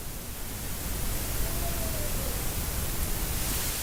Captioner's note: faint Voice